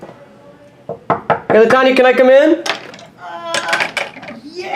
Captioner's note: knocks